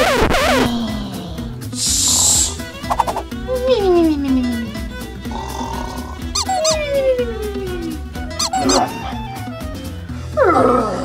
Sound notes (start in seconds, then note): 0.0 record scratches; 5.0 squeaky toy squeaks; 5.3 monster snores